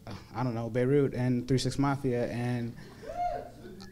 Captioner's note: crowd member goes woo